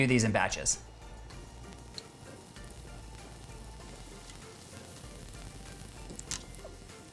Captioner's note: food sizzling; gentle music